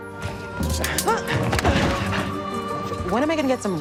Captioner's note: student grunting